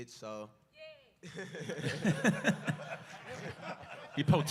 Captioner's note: laughter